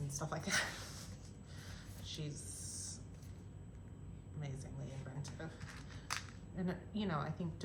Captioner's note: laughter